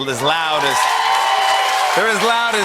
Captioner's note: cheers and applause